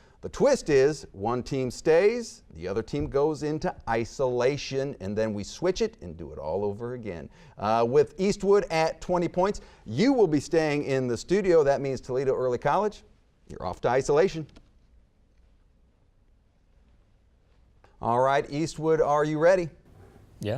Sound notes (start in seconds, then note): none